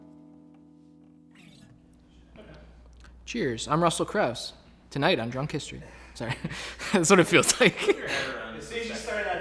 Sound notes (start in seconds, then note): 6.2 chuckles